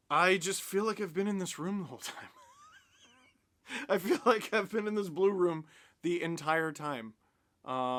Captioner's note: laughter